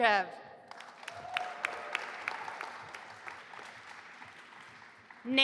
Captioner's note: audience applauding